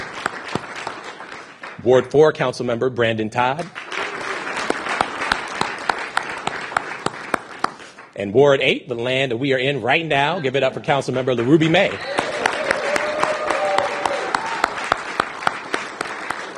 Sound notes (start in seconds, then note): 7.9 applause